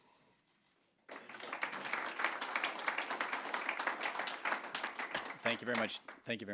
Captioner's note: applause